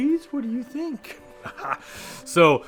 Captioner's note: laughs